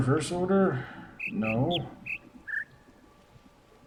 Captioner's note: bird chirps ˧ ˧ ˥ ˧ ˩